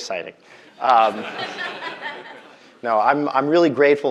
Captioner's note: audience laughing